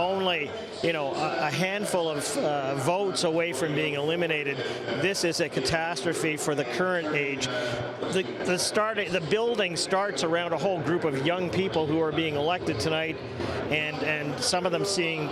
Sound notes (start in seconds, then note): none